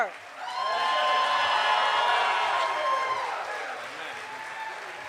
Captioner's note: cheers and applause